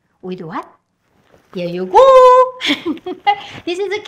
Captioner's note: laughs